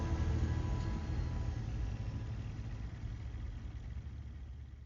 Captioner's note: engine rumbling